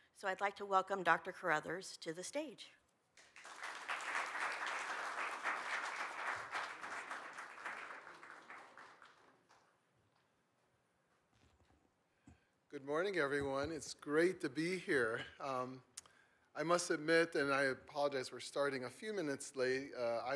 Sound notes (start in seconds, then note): 3.2 audience applauds